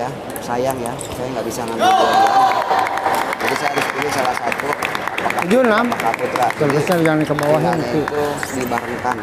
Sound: applause

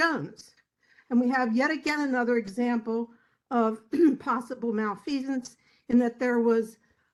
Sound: cough

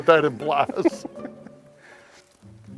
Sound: chuckling

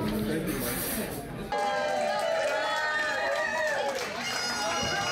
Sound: crowd cheers

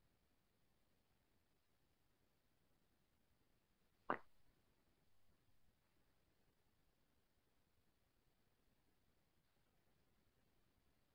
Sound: silence

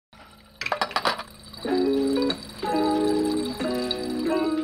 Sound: glass clinking; gentle music

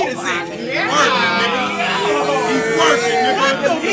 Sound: audience yells

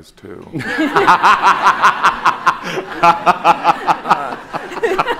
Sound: David and audience laughing

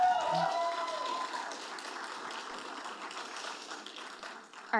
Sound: audience applauding

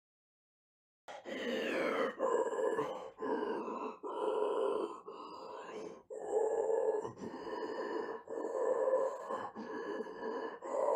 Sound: sound of breathing

